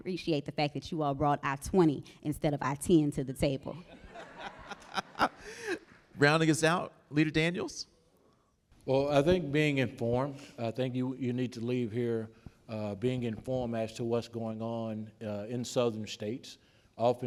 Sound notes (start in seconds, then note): 3.8 all laughing